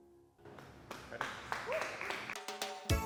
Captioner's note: applause; cheerful music